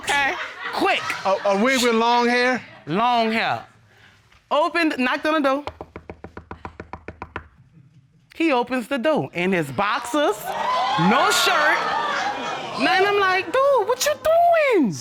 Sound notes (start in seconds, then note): 5.5 knocks on podium; 10.4 audience gasping